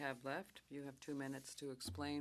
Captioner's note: speaking French